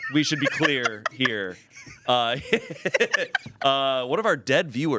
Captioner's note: everyone laughs